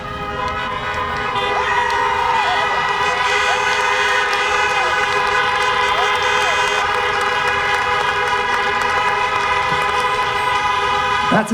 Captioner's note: applause, horns honking